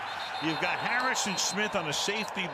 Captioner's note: pa announcement